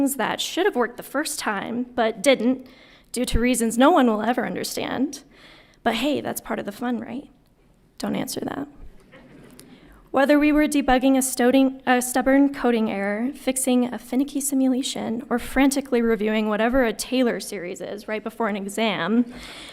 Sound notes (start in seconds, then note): 9.2 audience laughing